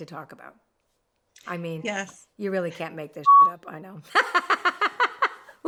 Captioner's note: beep